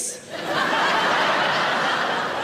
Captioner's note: audience laughing